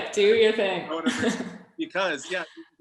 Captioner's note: laughing